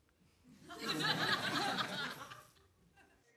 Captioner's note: laughter